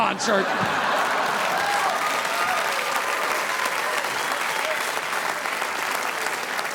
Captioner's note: audience laughing; audience applauding